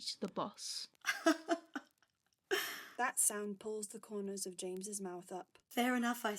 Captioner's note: she laughs